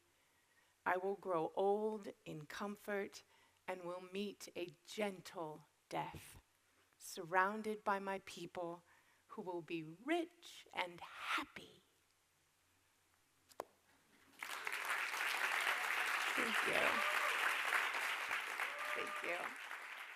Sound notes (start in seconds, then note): 14.3 audience applauding